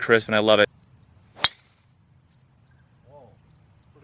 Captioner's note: golf ball thwacking